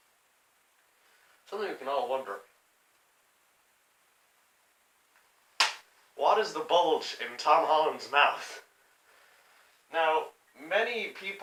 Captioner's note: smack